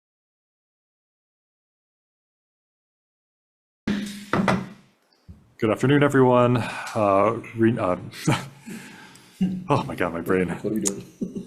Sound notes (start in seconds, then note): 3.9 gavel bangs; 8.0 laughs